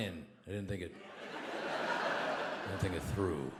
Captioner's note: audience laughs